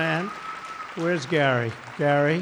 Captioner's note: applause